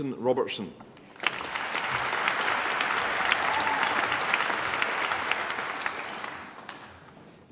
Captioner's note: applause